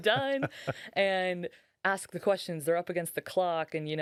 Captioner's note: laughing